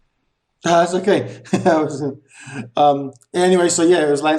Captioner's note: laughs